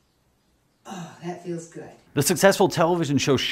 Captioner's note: sighs